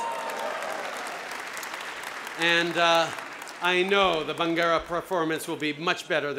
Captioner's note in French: Acclamations et applaudissements